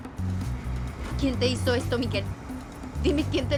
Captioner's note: speaking spanish